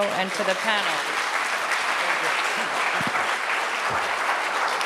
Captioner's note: audience applauds